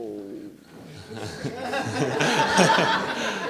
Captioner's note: laughter